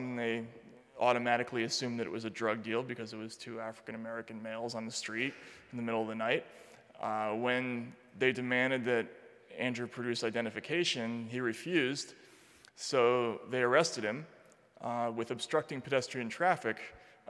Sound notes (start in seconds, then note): none